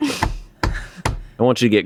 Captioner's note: smacks table